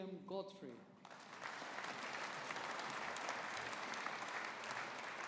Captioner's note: audience applauding